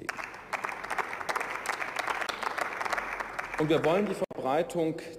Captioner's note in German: Beifall